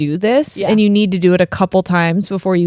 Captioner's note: none